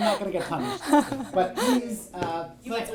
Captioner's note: laughs